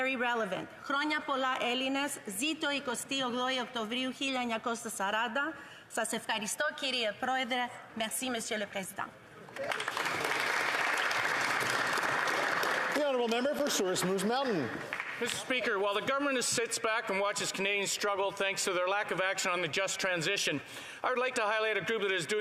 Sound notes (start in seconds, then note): 7.7 alternate language; 14.9 applause